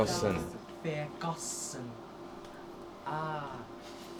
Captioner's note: chior babbling